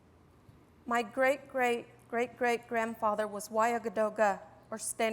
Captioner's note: non-english